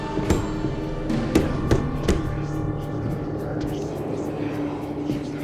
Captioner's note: door banging; intense music; voices whispering